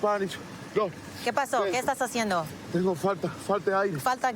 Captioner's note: speaking spanish